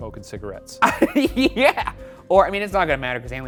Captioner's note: laughing